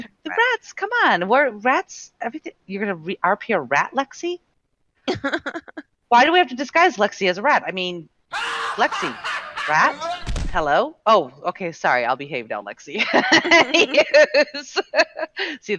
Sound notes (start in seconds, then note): 5.2 laughing; 8.5 sinister laughing; 13.0 laughing